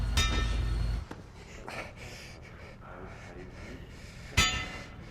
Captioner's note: chattering continues, muffled; metal clangs